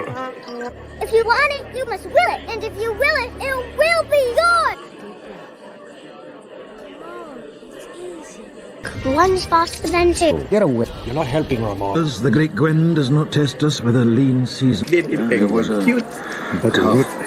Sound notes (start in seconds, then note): 15.7 talking/Groaning/Moaning/Clamoring